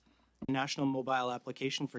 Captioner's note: speaking French